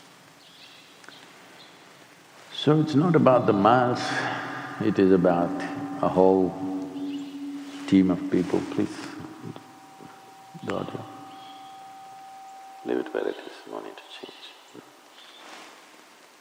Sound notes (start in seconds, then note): none